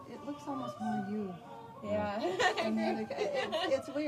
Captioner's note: laughs